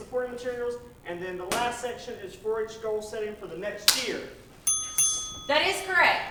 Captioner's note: ding Ding